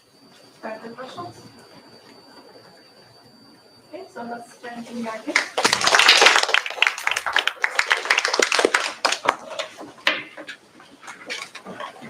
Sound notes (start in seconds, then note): 5.3 applause